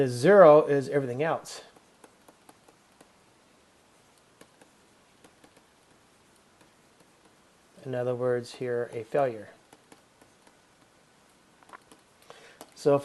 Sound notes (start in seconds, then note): 1.6 writing